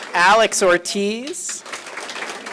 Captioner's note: applause